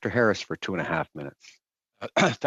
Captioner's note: speaking in French